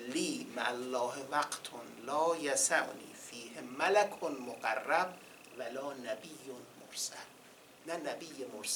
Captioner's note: quoting in Arabic